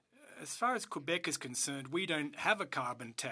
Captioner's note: speaking French